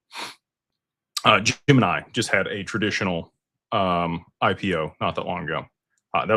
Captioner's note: snorts